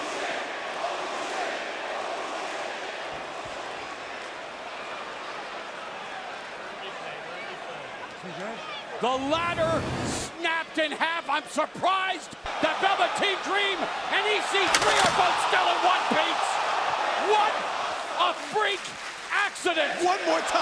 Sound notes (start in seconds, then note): 0.8 crowd cheering; 5.8 crowd chatter